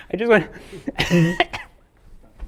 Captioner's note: coughs